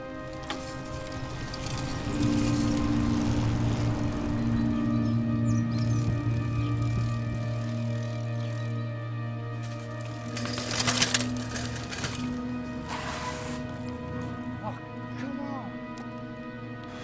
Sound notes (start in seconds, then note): 9.2 chain derailing; 12.8 bike tire screech